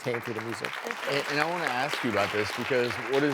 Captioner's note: clapping